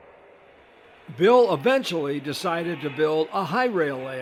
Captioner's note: voiceover